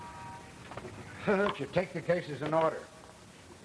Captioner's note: Hansen laughs